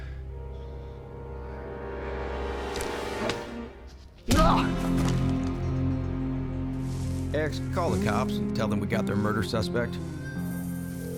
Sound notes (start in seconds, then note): 4.3 punch, mr. gates groans